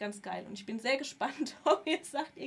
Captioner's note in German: gelächter